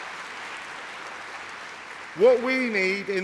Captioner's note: applause